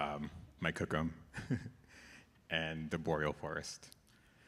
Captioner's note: chuckle